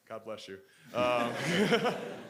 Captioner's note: audience laughing